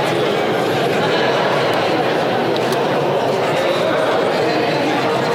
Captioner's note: crowd talking